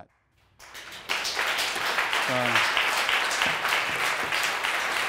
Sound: audience applauding

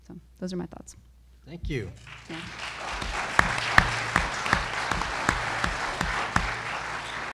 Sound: audience applause

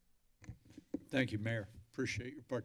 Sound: mic thump

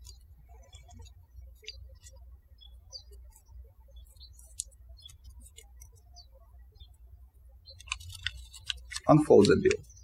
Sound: birds chirping

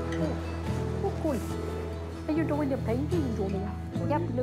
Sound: speaks indistinctly as lemurs

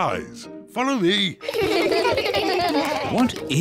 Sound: kids laugh

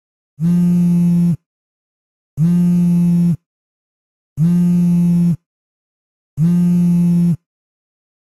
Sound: phone vibrating

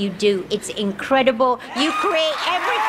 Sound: crowd cheers

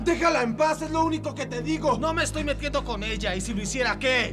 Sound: both yelling

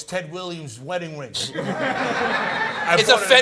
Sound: laughter

